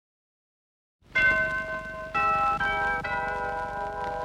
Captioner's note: doorbell ringing